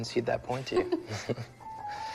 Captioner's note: both chuckle